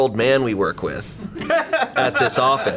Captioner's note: colleagues laughing